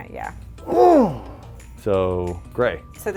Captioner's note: grunts